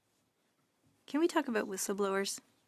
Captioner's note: speaking French